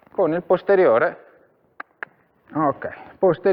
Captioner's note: cluck